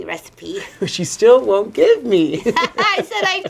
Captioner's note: both laughing